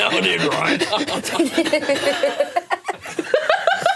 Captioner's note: all laughing; laughs